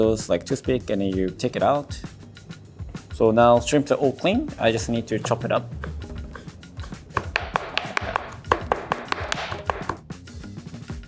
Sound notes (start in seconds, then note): 6.8 knife tapping